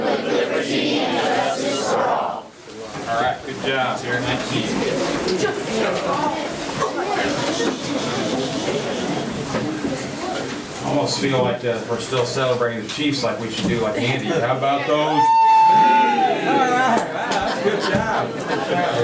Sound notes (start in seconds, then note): 5.7 audience chattering; 15.3 applause